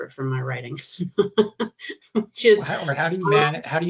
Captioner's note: chuckling